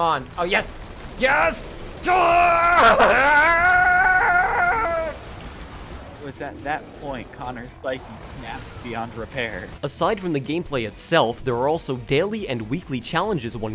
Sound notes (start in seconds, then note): 2.0 chewbacca noises